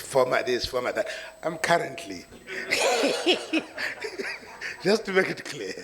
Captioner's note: laughs